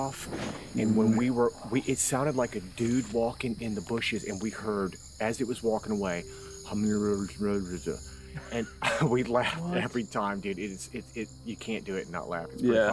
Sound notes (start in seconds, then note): 6.0 imitates mumbling